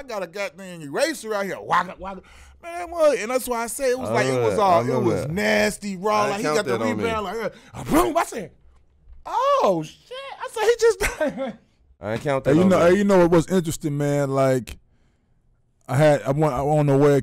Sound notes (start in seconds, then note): 7.9 makes smashing noise; 11.0 laughing